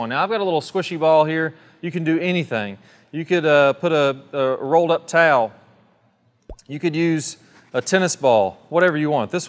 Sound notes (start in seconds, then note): 6.5 screen pops; 7.6 finger scratches